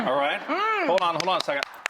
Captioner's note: clapping